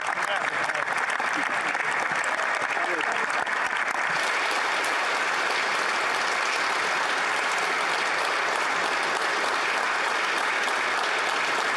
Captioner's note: applause